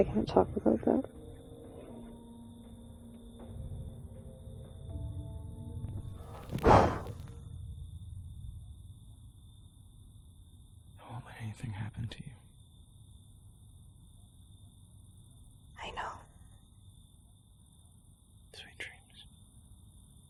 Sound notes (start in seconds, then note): 2.1 soft instrumental music; 6.2 Gio blows